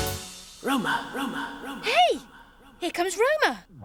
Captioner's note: outer space voice